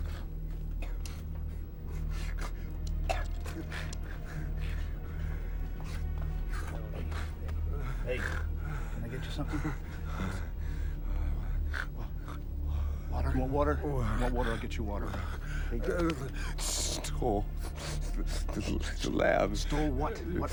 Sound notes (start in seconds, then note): 2.2 Bill coughs